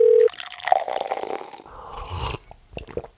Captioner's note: phone ringing; coffee pouring; host sipping